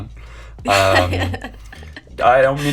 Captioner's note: laughing